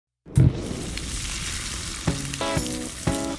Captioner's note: sizzling sound